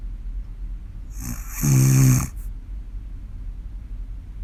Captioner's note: snoring